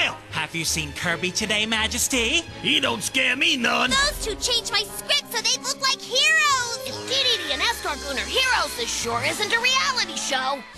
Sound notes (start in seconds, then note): none